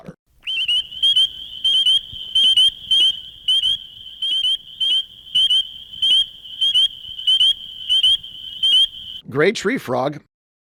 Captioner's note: spring peeper call